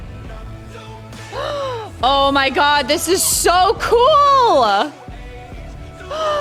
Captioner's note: gasps; gasps